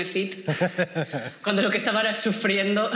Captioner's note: laughs